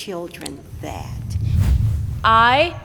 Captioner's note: air whooshes